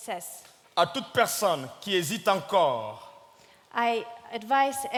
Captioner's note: speaking in French